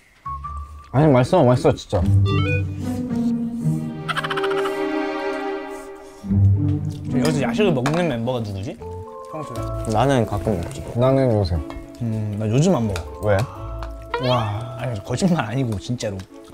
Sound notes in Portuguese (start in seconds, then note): 3.9 kkkk